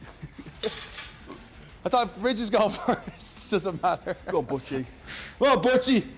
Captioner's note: laugh